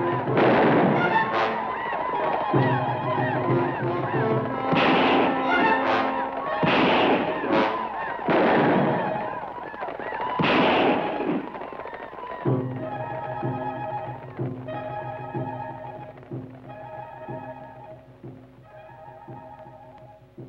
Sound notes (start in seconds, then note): 0.0 native Americans howl; 0.3 gun fires; 4.7 guns fire; 8.3 guns fire; 16.4 suspenseful orchestral music